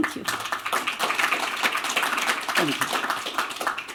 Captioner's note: applause